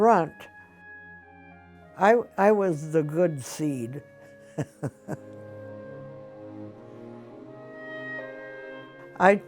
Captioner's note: laughs